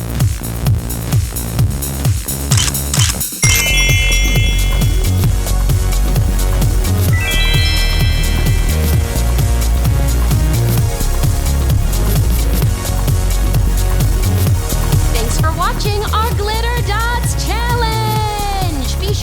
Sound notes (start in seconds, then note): 2.5 camera shutter clicks; 5.3 upbeat music